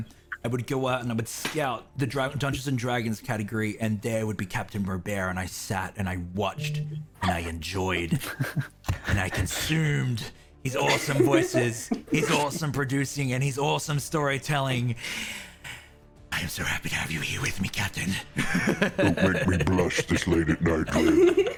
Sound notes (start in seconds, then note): 8.1 modest laugh; 15.0 deep inhale; 18.7 deep rumbling voice; 21.3 all laughter